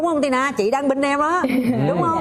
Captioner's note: laughs